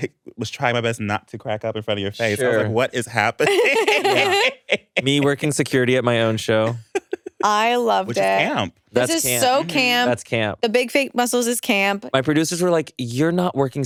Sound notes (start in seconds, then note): 3.4 everyone laughs